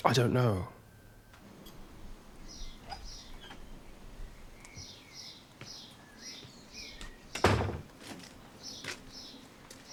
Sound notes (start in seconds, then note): 2.7 birds chirping